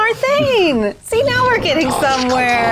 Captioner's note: grumbling